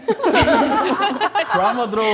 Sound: laughing

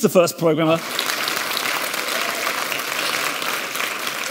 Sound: audience clapping

